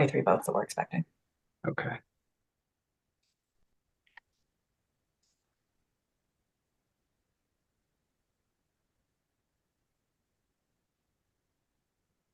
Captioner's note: pause